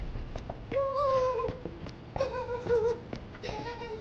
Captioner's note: Wally vocalizes